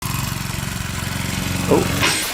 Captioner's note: engine revving